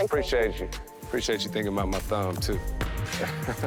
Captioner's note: chuckling